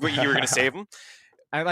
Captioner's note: laughs